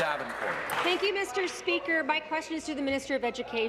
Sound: applause

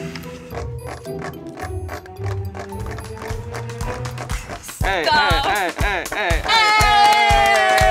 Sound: chair creaking

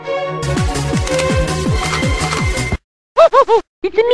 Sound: gun cock

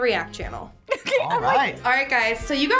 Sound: laughs

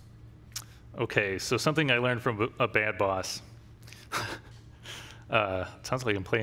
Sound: laughs

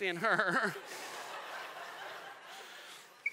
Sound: laughing

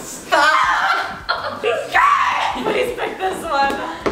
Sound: laughing

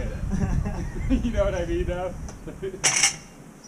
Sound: laughs; laughing

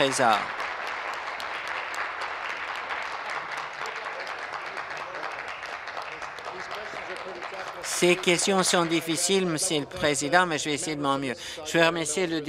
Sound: applause

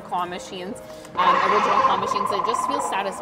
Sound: dinosaur roaring

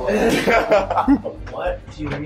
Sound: laughter

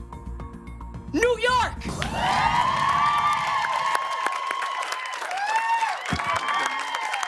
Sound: cheers and applause

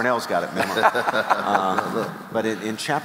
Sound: chuckling

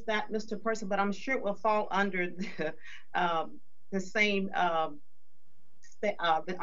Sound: chuckles

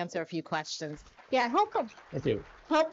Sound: audience applauds

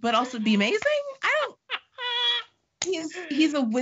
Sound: laughing

